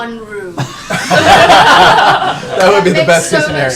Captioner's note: laughter